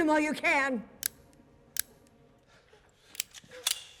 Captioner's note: clicking